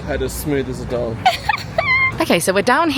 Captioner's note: laughing